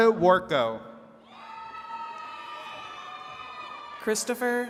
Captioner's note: attendees cheering